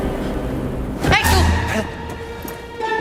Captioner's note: in Italian